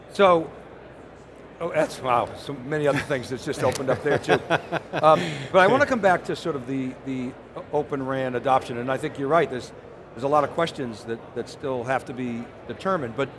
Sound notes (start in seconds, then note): 3.5 laughs